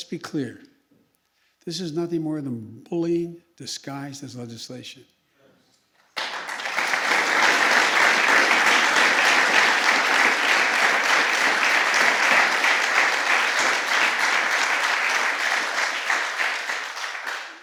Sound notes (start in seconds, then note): 6.0 applause